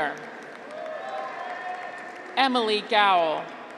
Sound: audience applauds

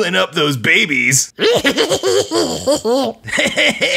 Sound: goblin giggles; laughs

